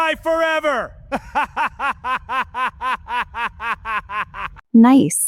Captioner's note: evil laughs